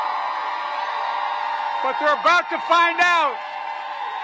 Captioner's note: applause